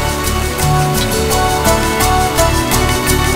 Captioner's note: Toasting